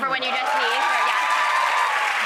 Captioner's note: audience claps